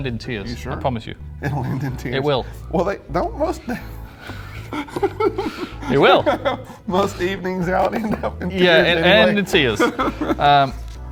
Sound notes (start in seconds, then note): 3.2 laughing